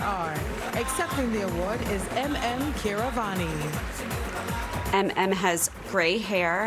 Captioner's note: applause